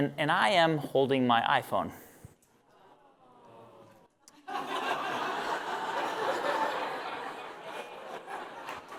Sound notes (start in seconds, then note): 4.3 laughter